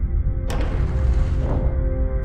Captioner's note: door opens